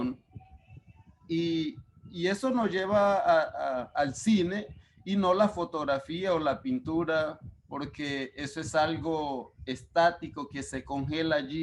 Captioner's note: speaking Spanish